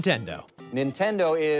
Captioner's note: soundbite of archived recording